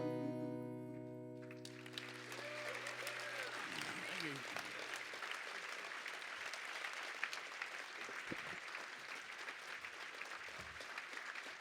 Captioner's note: applause